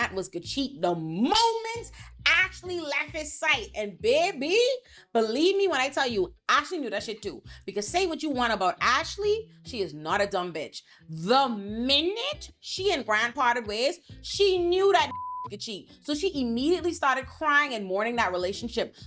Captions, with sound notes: was gonna cheat the moment Ashley left his sight. And baby, believe me when I tell you, Ashley knew that shit too. Because say what you want about Ashley, she is not a dumb bitch. The minute she and Grant parted ways, she knew that (beep) could cheat. So she immediately started crying and mourning that relationship.